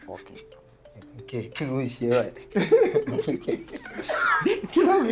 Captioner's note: laughs